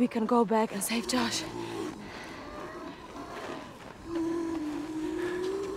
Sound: distant growling

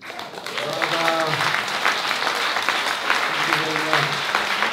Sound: applause

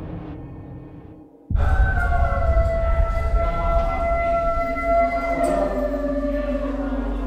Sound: inmate howling; howling continues

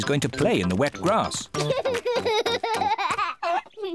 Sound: laughing

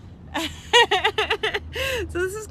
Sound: mom laughing

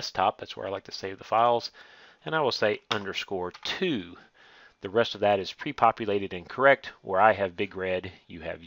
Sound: typing

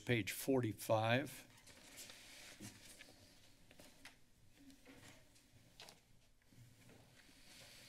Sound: pages turning

